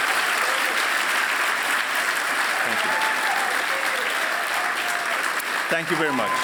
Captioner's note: applause